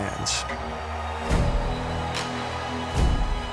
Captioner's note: cheering